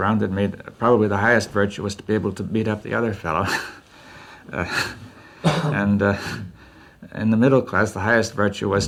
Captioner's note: laughs